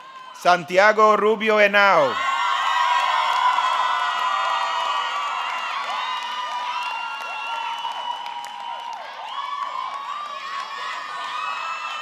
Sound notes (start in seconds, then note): 2.6 audience clapping; 2.7 audience cheering